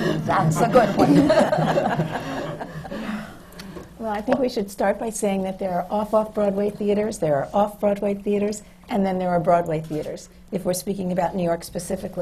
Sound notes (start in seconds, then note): 2.9 laughter